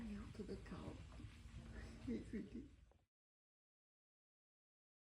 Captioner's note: laughter